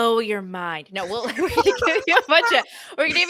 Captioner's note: laughs